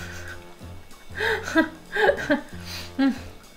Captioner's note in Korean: 웃음